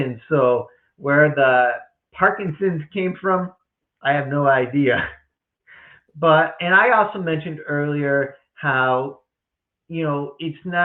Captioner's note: chuckles